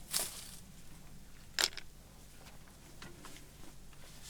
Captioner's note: rocks shuffling